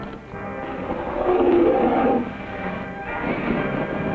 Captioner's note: creature growling